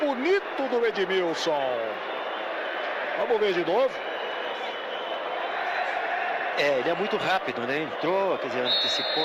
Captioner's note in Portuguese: aplausos